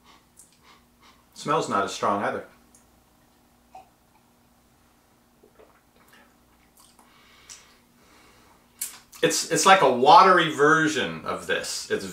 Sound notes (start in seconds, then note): 0.5 sniffs